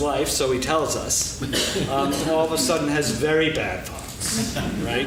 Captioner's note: laughing